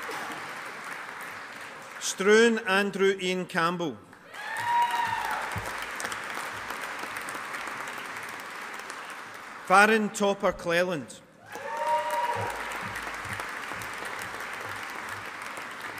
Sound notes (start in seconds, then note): 4.2 audience applauding; 11.4 audience applauding